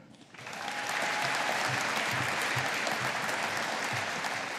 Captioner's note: audience applauding